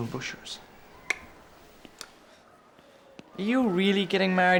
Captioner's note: tongue clicks